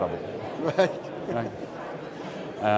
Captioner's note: laughs